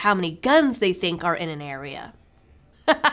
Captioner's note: laughter